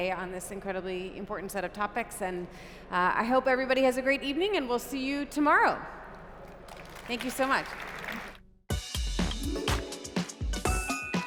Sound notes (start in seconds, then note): 6.4 applause